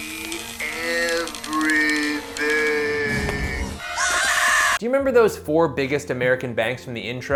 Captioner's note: screams